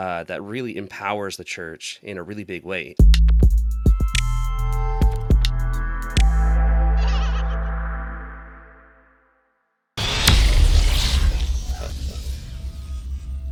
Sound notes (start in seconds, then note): 3.1 gentle upbeat music; 7.0 monkey laughs; 10.0 electronic music